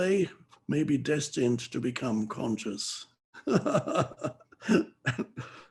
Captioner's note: laughs